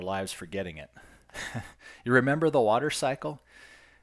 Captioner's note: chuckles